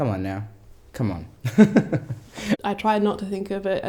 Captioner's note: laughs